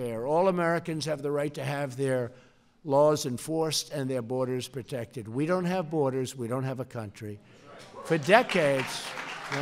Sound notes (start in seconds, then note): 8.1 applause